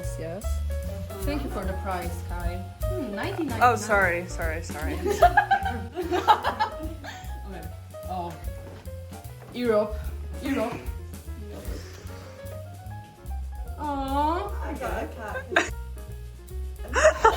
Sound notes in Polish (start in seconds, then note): 4.9 śmiech